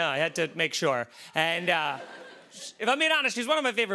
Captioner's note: laughter